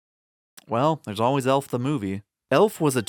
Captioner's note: lip smack